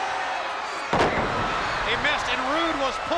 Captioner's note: Dustin thuds